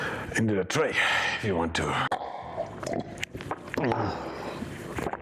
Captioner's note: slurps